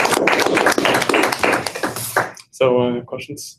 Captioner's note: applause